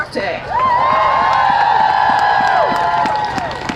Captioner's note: cheering